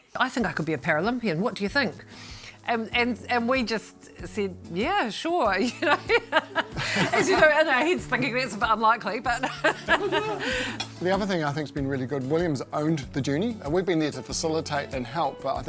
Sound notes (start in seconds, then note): 9.3 laughs